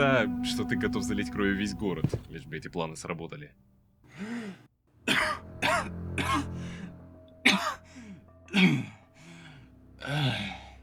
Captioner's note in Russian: кашель